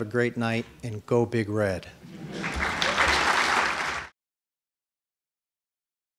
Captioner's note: audience applauding